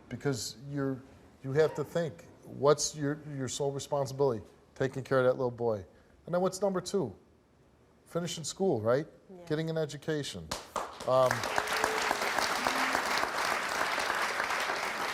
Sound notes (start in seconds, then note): 10.6 audience applauds